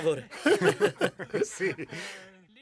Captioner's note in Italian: Risata